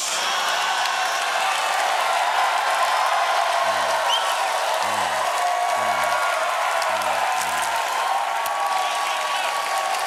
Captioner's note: cheers and applause